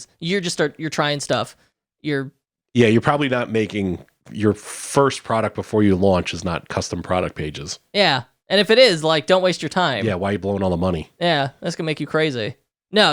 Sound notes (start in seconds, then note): none